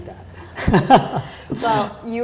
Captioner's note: laughter